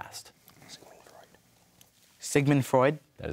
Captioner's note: whispers